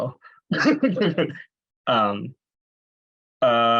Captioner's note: laughs